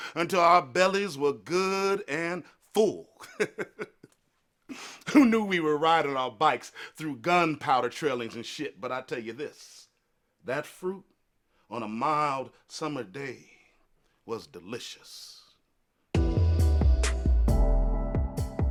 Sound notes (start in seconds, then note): 3.2 chuckles; 16.2 bright music